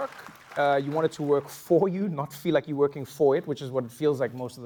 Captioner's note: applause